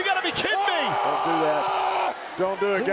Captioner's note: Reigns shouting